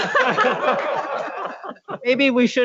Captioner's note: laughs